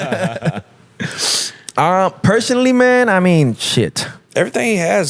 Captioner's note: laughing